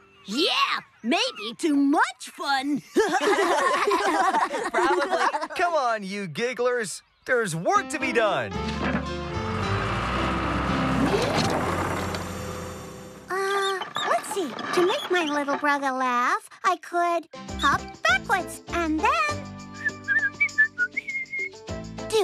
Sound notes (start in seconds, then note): 2.9 all Laughing; 10.1 engines Rumble; 19.7 whistling